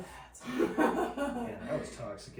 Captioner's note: laughing